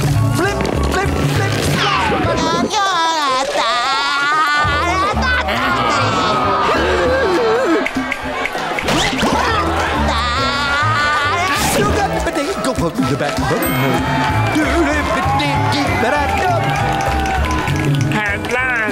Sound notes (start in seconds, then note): 6.2 crowd groaning; 8.4 snapping